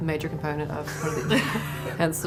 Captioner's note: laughs